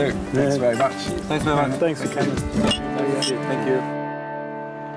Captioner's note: glasses clink